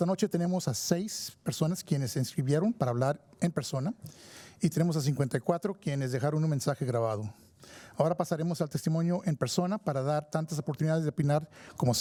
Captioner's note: speaking in spanish